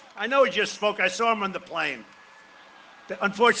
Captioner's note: cheering and applause